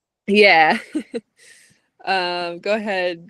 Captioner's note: chuckles